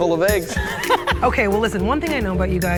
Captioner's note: laughing